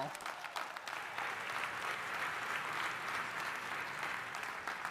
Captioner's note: audience applauding